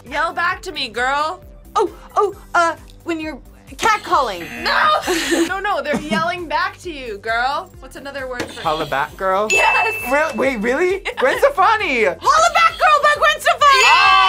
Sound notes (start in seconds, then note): 4.2 buzzer; 9.5 buzzer rings